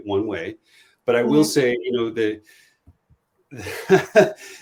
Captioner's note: laughs